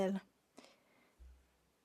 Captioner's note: speaking French